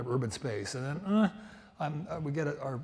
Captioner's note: grunts